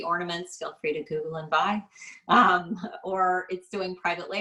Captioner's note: laughs